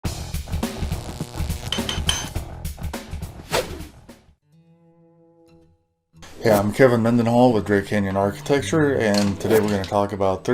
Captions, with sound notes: (upbeat music) (air whooshing) (soft music) - Yeah, I'm Kevin Mendenhall, with Drake Canyon Architecture. And today we're gonna talk about